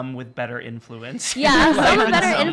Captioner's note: laughing